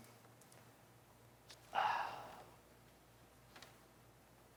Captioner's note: exhales deeply